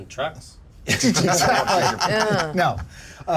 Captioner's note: laughs